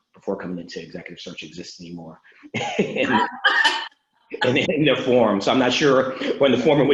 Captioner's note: laughing